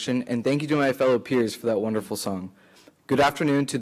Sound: none

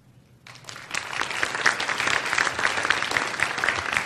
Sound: applause

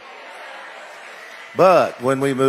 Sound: audience exclaiming

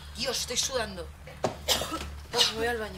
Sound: coughs

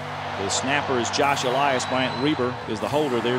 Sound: voiceover

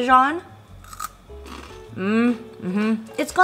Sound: snack crunching

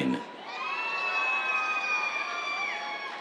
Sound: cheers

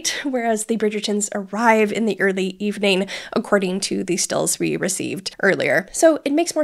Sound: none

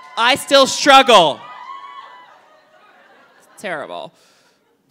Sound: audience cheering

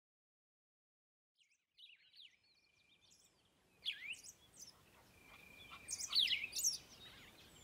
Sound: birds Chirp

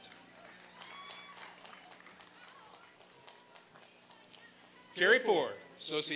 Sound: applause and cheering

